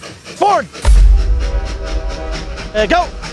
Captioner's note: thuds